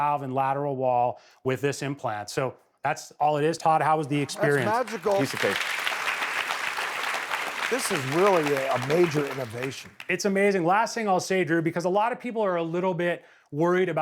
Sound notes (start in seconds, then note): 4.1 audience claps